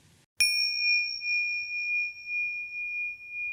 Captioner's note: bell chiming